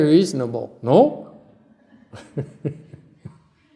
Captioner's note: laughter